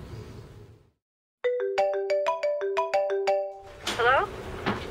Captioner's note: phone Ringing